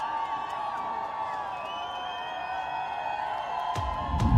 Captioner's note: crowd cheering